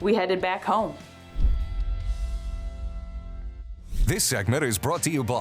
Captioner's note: logo swooshing